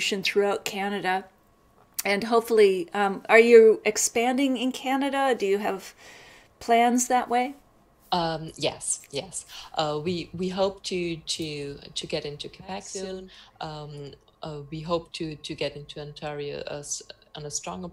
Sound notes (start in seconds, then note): none